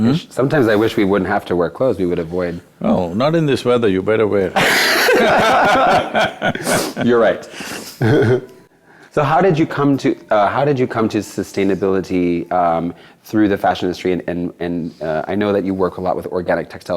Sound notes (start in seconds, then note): 4.5 both Laugh; 8.5 laughs